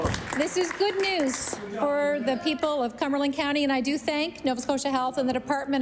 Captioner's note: applause